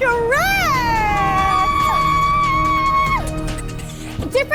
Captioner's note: shrieks